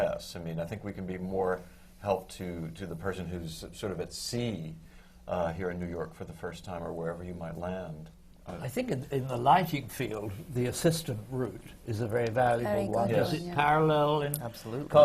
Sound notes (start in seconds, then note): none